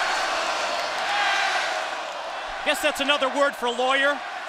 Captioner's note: crowd cheering